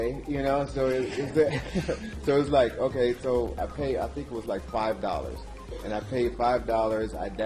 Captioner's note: laugh